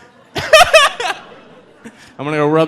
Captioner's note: laughing